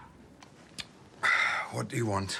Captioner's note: Harry sighs